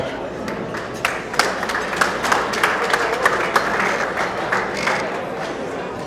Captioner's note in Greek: το κοινό χειροκροτεί